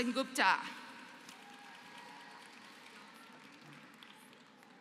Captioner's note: applause